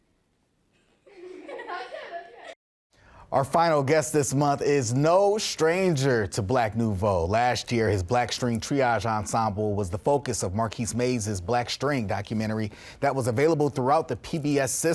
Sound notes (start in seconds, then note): 1.0 children laugh